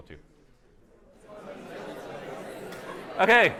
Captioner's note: indistinct chatter